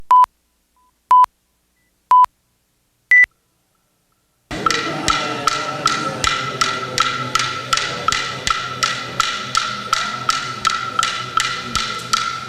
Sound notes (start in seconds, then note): 0.4 beeps; 4.5 clacking